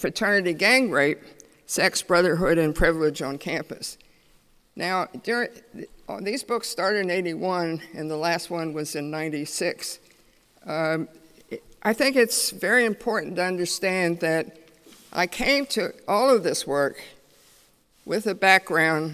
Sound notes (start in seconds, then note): none